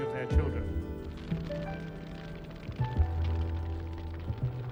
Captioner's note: flames crackling